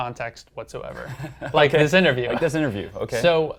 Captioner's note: laugh